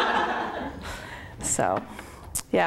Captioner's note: laughter